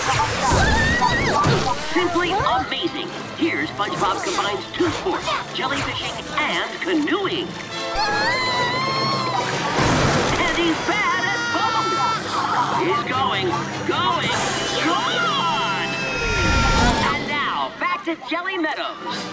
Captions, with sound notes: Whoa! Simply amazing. Here SpongeBob combines two sports, jellyfishing and canoeing. [screaming] And he's bad at both! He's going, going, gone! [screaming] And now back to Jelly Meadows.